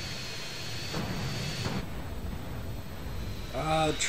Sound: rocket fire, explosions

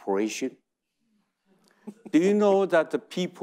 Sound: audience chuckling

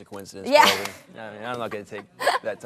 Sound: laughs

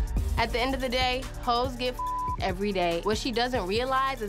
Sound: beep

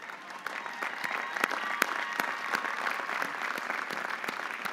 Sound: audience applauding

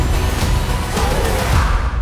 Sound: chanting

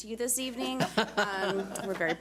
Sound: board laughs

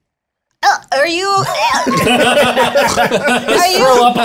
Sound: gags

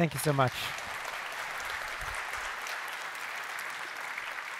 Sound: applause

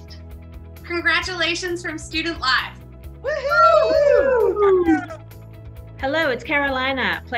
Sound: group cheering

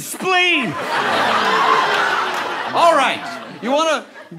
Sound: audience laughter

